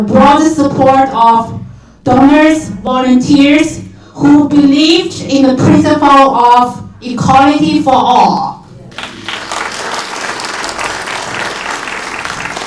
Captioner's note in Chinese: 掌声